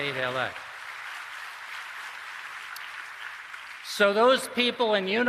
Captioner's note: applause